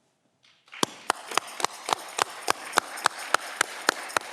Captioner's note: audience clapping